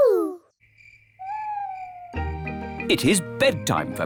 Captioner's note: crickets chirping